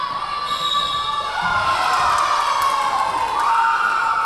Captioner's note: cheering; whistle blowing; clapping; cheering